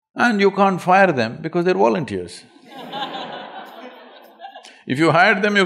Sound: laughter

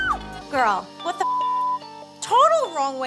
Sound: beep

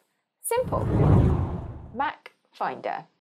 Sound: whooshing

